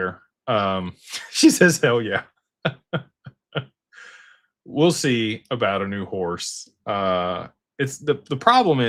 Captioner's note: laughter